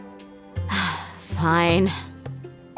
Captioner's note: sigh